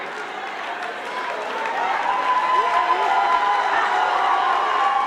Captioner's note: crowd cheering; crowd clapping